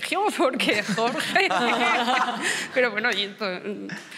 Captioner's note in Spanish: algunos ríen